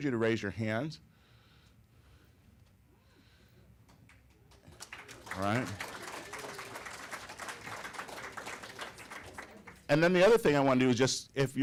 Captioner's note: applause